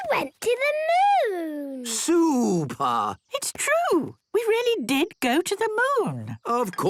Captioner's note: none